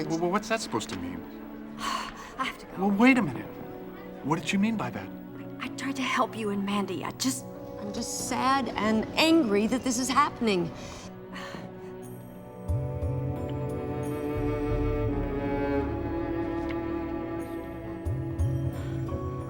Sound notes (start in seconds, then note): 2.1 exhales sharply; 11.3 sighs